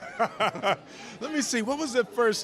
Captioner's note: laughing